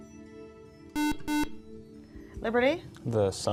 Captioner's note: beeping